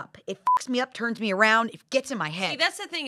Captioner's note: beep